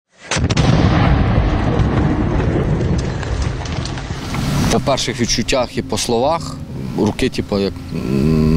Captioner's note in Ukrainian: звук вибуху